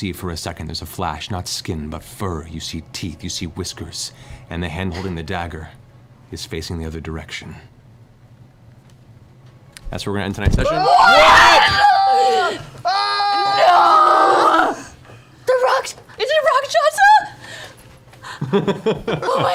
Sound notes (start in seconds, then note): 10.6 shocked exclamations; 18.3 laughs